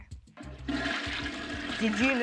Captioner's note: water gurgling